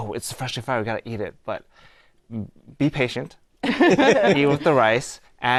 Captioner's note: laughter